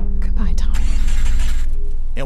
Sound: car engine starting

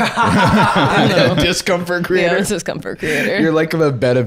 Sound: laughing

